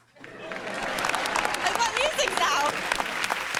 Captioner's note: laughter